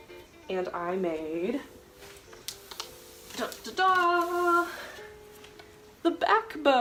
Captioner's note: akward carpet noises